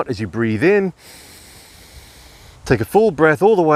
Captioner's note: breathing heavily